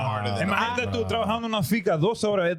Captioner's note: speaking In Foreign Language